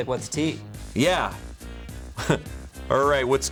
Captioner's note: chuckles